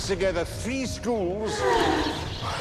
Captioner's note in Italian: ragazze sospirano